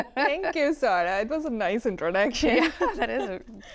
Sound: laughter

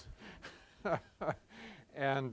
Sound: laughs

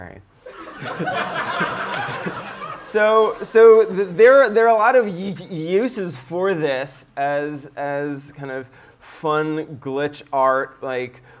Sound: laughter

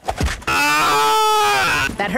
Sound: screams

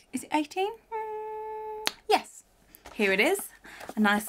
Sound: hums

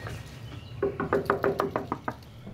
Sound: knocking

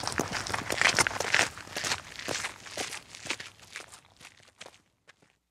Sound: footsteps

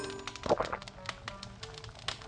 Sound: fireplace sound; drinking

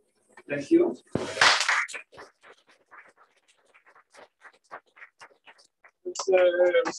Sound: applause

